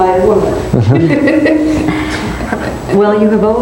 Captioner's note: laughs